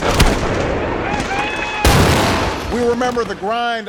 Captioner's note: explosion blasts; people cheer